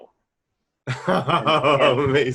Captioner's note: laughing